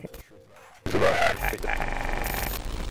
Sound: glitchy sounds

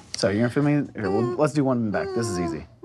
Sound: whimpers

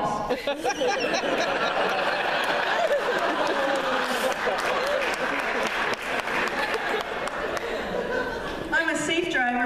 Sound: laughter

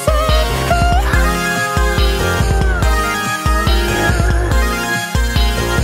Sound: awooo~

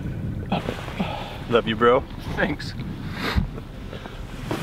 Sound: sniffles

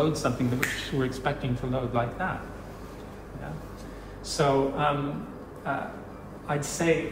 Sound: snap of a finger

